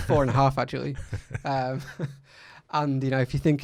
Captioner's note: laughs